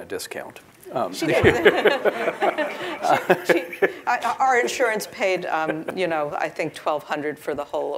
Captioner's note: laugh